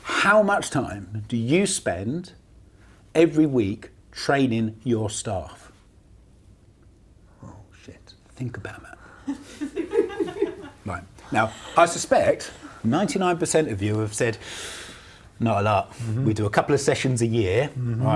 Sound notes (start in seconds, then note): 11.0 laughs